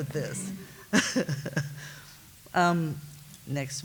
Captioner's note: laughs